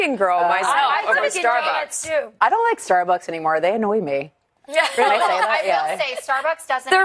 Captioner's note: laughs